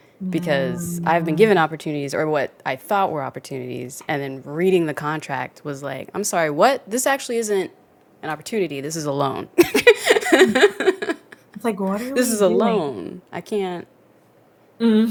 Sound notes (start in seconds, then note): 9.6 laughs